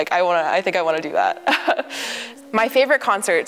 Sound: chuckles

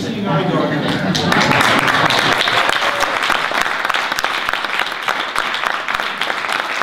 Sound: audience applause

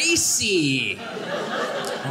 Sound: audience laughing

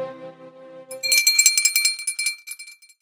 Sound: bells ringing

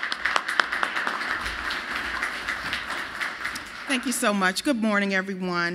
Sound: applause

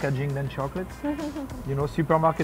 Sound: laughs

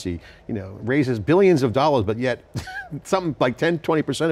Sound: laughs

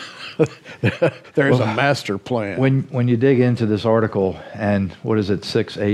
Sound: chuckles

